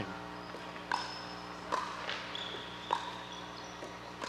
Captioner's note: ball bouncing